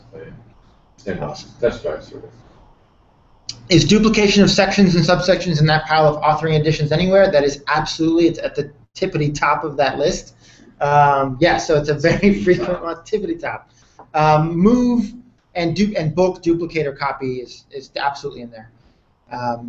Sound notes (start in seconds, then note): 12.0 laugh